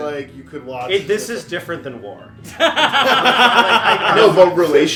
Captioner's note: laughter